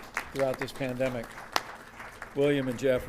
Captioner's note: applause